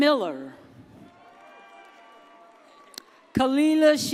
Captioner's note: audience cheers